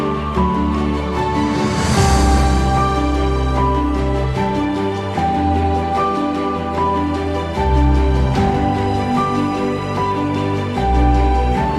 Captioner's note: applause